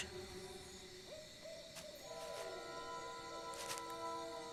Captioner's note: hooting in distance